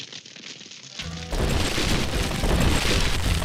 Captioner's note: crumbling, crashing